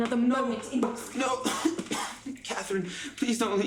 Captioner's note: coughs